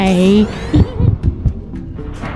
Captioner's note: laughter